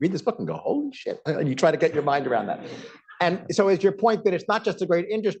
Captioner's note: laughter